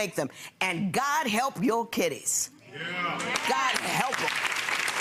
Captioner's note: audience clapping